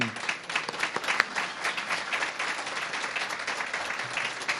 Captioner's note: applause